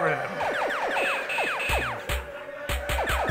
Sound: zapping; electronic music

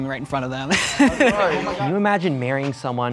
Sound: laughs

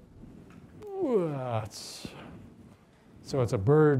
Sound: groans

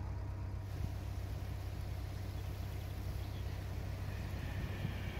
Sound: sound: Two narrowboats diesel engines

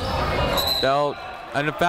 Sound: whistle

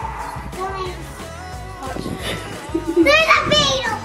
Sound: air whooshing; blowing; laughing

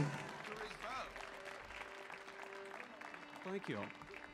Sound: audience applauding

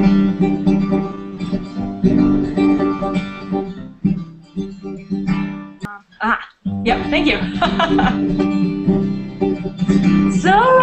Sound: laughter

